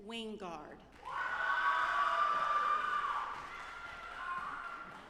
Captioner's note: audience applauding